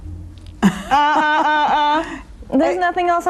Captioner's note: laughing